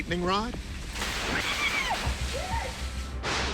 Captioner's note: woman screaming; lightning cracking